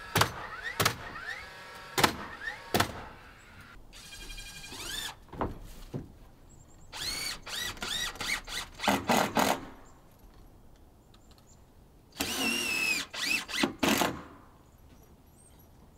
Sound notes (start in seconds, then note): 0.2 nails banging loudly; 5.1 drill buzzing loudly; 5.3 wood rustling loudly